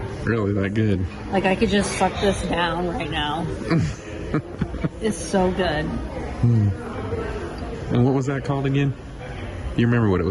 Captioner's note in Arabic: يضحك